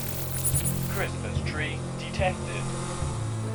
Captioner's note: robotic voice